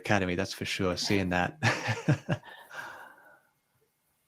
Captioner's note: chuckles